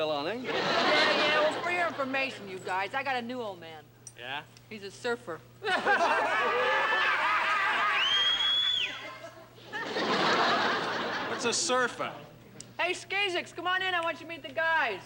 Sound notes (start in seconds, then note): 5.7 all laughing; 7.9 whistles; 8.8 laughter